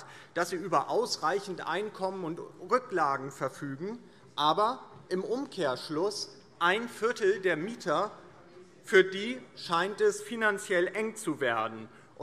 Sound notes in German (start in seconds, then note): none